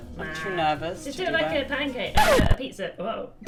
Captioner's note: scratch record sfx